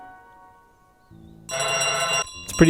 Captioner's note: honking bell